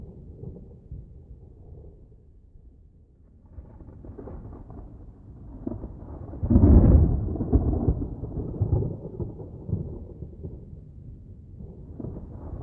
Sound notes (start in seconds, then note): 0.0 sounds of a thunderstorm can be heard